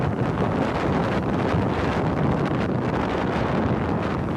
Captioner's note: waves crashing